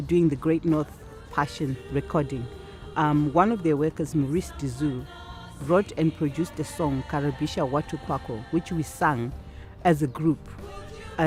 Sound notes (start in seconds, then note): 7.2 speaking African language